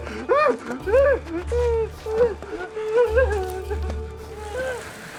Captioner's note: whimpers